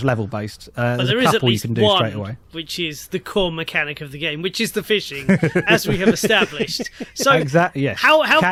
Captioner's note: laughs